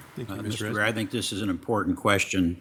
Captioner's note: overlapping chattering